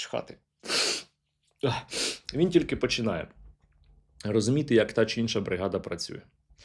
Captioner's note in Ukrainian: сопіння